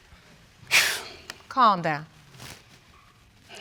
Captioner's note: sighs